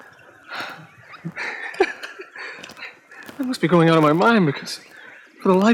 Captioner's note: chuckling